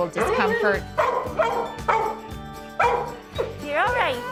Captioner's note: dog barking